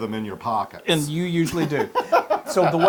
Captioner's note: laugh